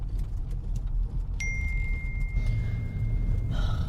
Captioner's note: Keo’s phone message alert chimes